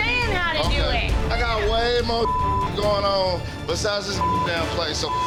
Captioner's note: beep